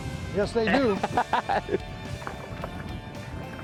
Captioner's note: laughter